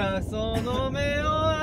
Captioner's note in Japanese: 咳払い